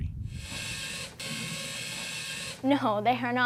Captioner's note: robot whirring